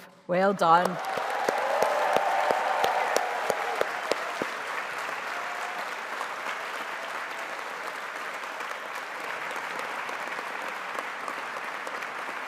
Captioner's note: applause